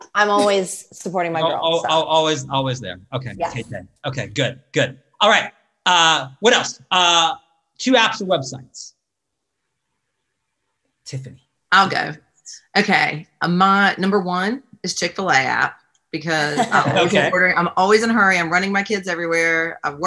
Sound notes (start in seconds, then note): 16.4 laughs